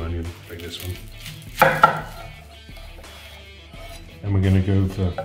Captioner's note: knife chopping